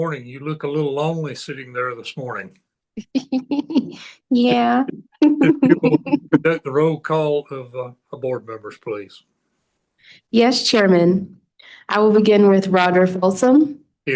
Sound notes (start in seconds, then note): 4.4 laughing